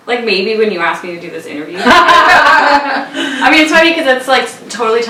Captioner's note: laugh